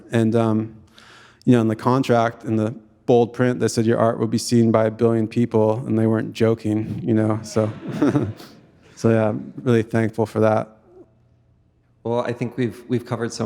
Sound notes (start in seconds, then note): 8.9 audience chuckling; 8.9 chuckles